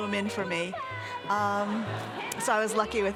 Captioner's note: audience laughing